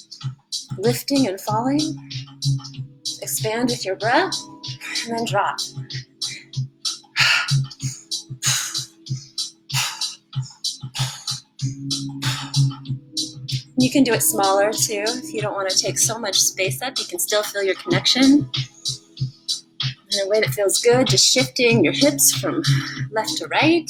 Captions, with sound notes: lifting and falling... expand with your breath... and then drop. [audible inhale, then exhale... keep breathing] you can do it smaller too if you don't want to take so much space, you can still feel your connection in a way that feels good, just shifting your hips from left to right